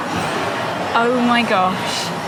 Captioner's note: much babble and bustle